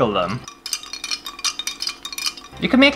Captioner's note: clinky Sounds